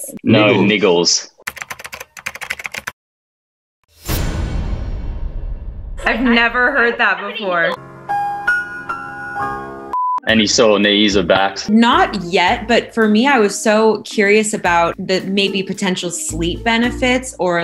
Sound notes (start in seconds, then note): 1.4 keyboard typing; 3.9 dramatic sound; 7.8 piano playing